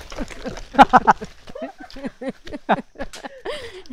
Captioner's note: laughs